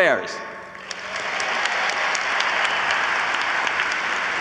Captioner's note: audience applauds